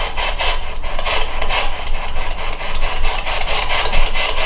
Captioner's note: static